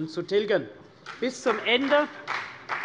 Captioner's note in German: Beifall CDU und BÜNDNIS 90/DIE GRÜNEN